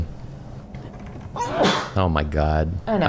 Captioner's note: sneeze